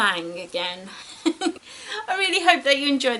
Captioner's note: giggles